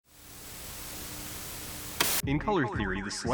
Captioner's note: static